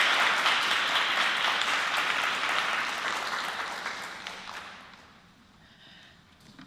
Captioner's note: applause